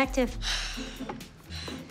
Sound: sighs

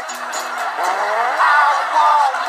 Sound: fart

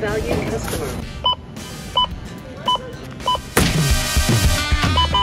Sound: scanner beeping

